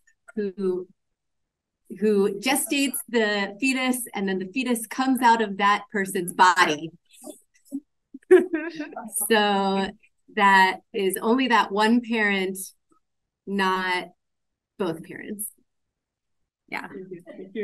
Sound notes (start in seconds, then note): 8.2 laughs